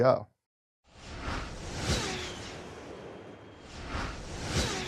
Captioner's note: whooshing